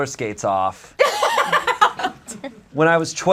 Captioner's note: audience laughs